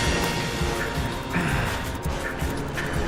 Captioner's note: grunting